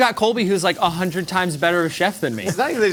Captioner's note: oil sizzling